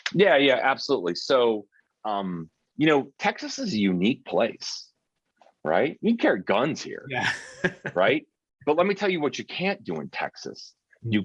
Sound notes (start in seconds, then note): 7.2 chuckling